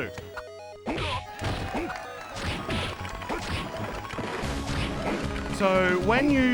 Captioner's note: audience cheering and clapping